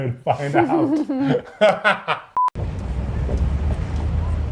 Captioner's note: both laugh